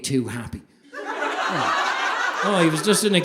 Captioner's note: audience laughing